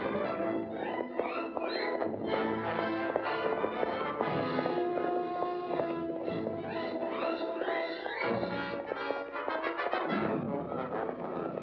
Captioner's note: hooves pounding; dramatic music